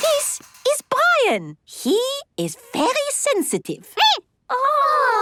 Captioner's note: squeaking